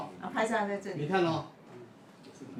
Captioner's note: background chatting